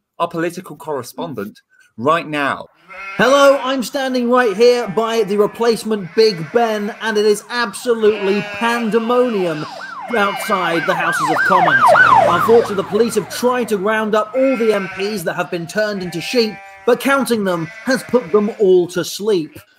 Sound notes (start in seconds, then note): 6.2 sheep baa'ing; 8.5 sheep baa'ing & police sirens; 13.5 sheep baa'ing & police sirens; 16.1 sheep baa'ing; 19.0 sheep baa'ing